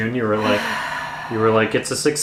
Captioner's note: sighs